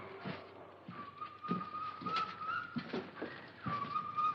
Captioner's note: zoo animal noises